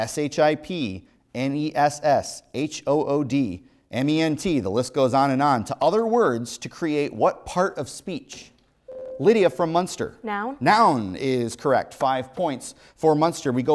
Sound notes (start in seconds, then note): 8.9 buzzer